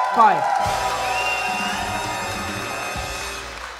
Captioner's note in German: Jubel, Applaus